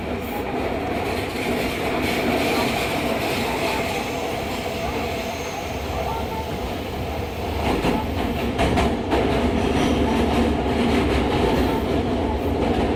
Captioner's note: wheels grinding sound, sound of train passing through points